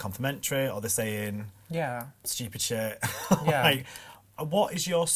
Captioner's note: laughs